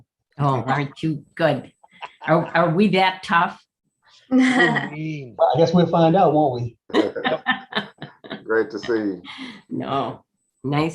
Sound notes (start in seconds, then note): 1.8 laughing; 4.4 laughing; 6.9 laughing